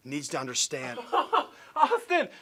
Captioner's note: laughter